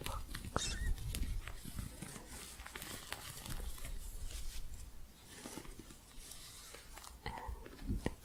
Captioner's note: soft scratching